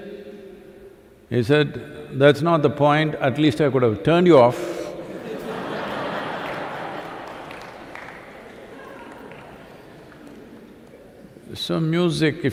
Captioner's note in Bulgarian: смях/аплодисменти